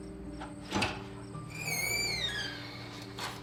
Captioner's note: door opens